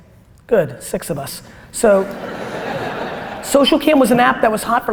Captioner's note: audience laughter